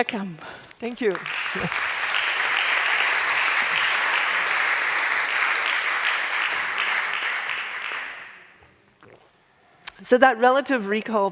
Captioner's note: applause